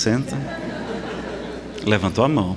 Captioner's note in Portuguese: risadas